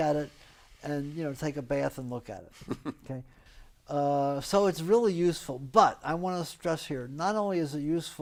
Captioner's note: laughs